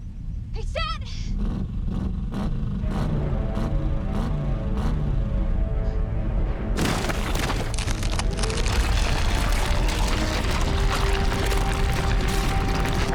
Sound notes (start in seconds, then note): 6.8 thud sound